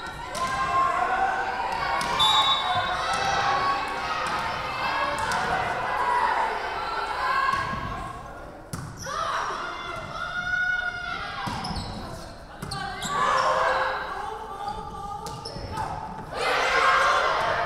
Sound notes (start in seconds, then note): 2.1 whistle blowing